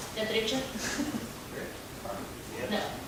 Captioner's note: speaking foreign language